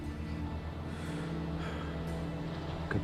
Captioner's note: sighs